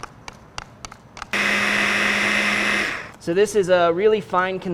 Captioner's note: food processor pulses